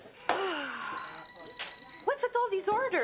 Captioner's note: sigh; phone rings